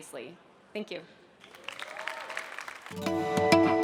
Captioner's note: applause